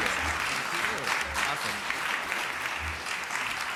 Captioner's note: applause